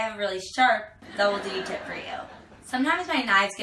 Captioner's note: laughing